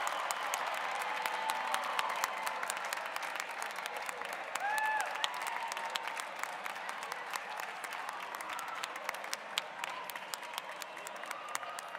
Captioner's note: cheers and applause